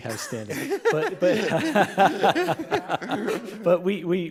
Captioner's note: everyone laughing